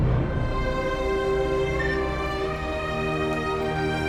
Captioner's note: dramatic music; police radio beeps